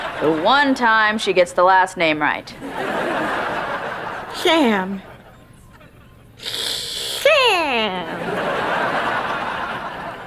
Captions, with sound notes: The one time she gets the last name right. [laughing] Sam... Sam... [laughing]